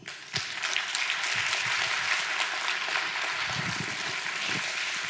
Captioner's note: audience applause